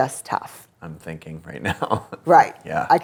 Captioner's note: laughs